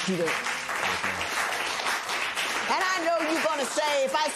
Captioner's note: applause